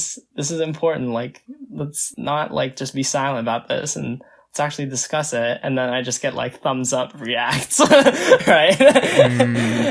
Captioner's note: laughs